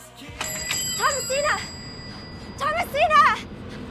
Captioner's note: door chimes